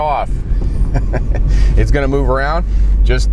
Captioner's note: laughs